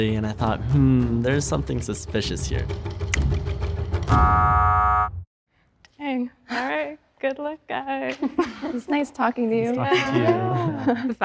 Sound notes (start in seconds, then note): 3.4 suspenseful music; 4.1 buzzer buzzing